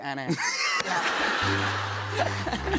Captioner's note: laughter; sad tuba